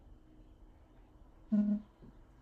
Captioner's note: phone buzzing